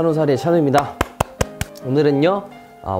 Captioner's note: applause